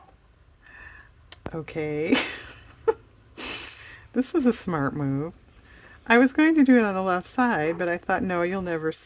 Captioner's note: laughs